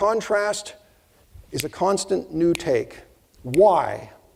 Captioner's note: snapping fingers